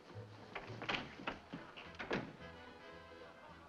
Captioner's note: door opening & closing